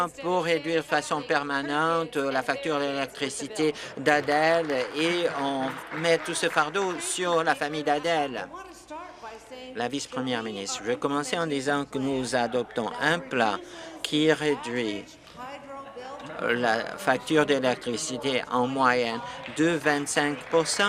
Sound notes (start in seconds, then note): 7.3 applause